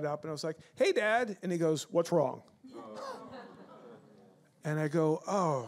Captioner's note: audience laughs